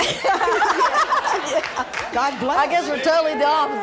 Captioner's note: laugh